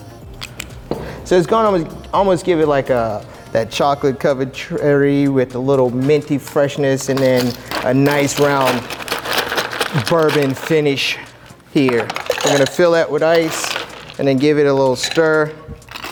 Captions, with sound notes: (bottle clunking) So it's gonna almost give it like that chocolate covered cherry with a minty freshness and then (rattles ice) a nice, round bourbon finish here. (rattles ice) We're going to fill that with ice, (ice rattling) and then give it a little stir.